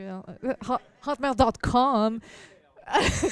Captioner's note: laughter